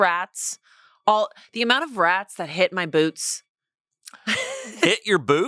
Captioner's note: laughs